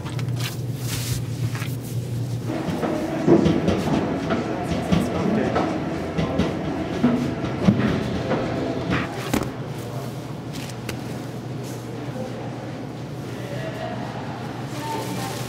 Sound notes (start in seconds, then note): 0.0 knife scraping; 0.3 mixture squishing; 2.3 background machinery whirring; 8.8 mixture thudding